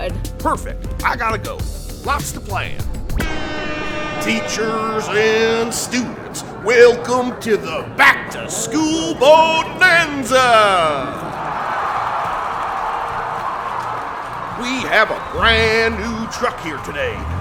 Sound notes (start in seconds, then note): 3.1 airhorn blares; 10.3 crowd cheers